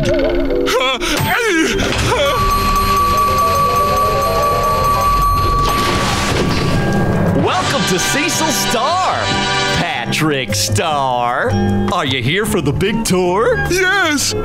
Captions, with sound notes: Huh, ey! [series of bells chiming] Welcome to Cecil Star, Patrick Star. -Are ya here for the big tour? -Yes!